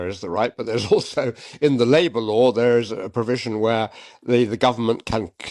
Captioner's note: chuckles